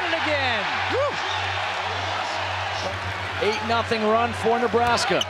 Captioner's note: crowd cheering